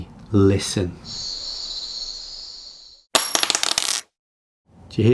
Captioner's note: insects chirping; object clattering